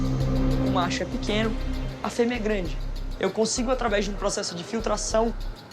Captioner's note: speaks in foreign language